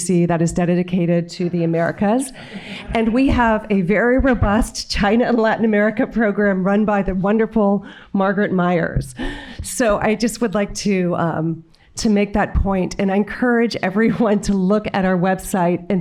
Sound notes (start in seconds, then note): 2.3 audience chuckling